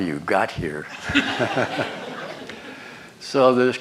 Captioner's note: laughter